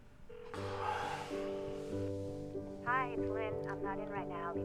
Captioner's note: phone ringing